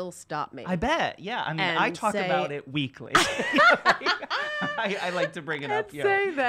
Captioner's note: laughs